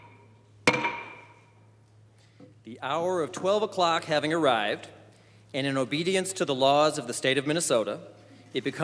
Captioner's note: banging Gavel